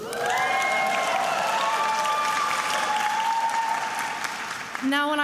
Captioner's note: attendees applauding and cheering